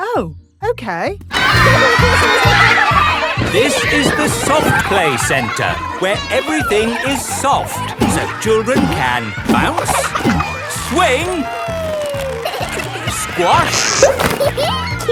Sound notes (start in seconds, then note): 4.0 loudly over shouting; 12.0 giggles